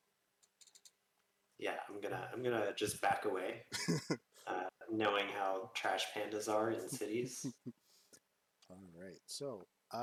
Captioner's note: chuckles